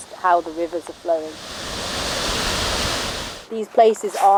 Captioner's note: water flowing